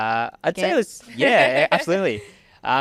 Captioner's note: laughing